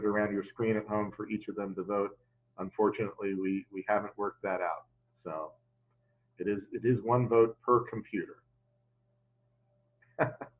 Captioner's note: laughs